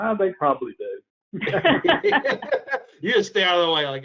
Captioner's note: all laughing